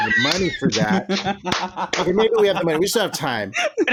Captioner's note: laughter and clapping